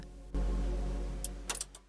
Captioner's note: tv turns off